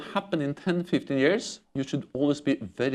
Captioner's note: laughter